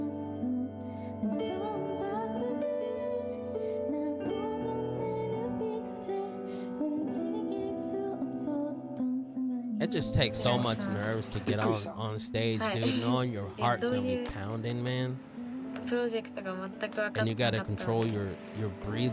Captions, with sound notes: It just takes so much nerves to get out on stage, dude, knowing your heart's gonna be pounding, man. (speaking Japanese) And you gotta control your breathing